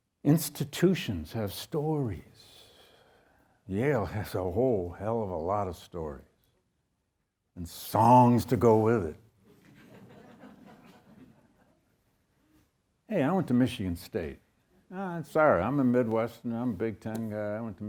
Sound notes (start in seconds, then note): 9.5 audience chuckles